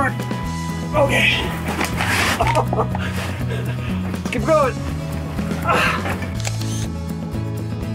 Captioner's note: laugh